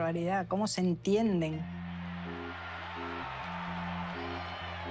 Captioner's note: crowd cheers, music continues